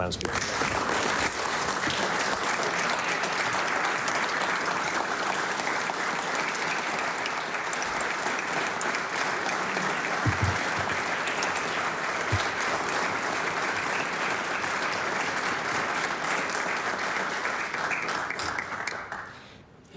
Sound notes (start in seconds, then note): 6.7 applause